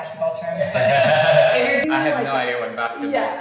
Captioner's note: both laugh